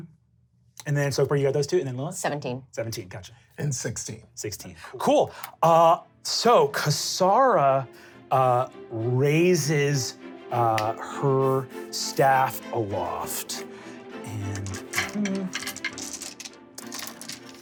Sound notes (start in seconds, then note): none